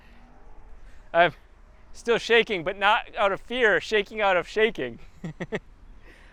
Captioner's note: laughs